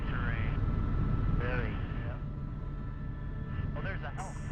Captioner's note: voiceover